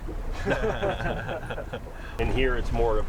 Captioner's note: laughing